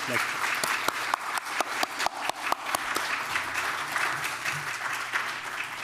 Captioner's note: everyone applauding